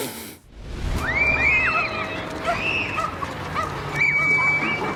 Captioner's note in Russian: крики